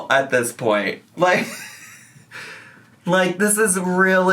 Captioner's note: laughs